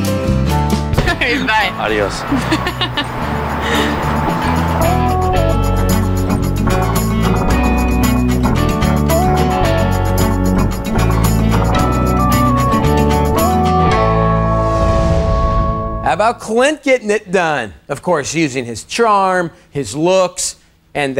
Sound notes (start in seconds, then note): 2.2 laughing; 4.4 mellow rock music